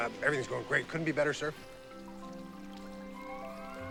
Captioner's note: water trickling